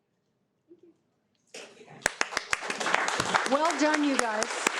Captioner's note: audience applauding